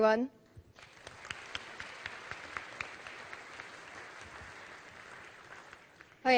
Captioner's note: applause